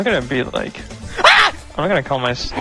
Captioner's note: helpless Yelp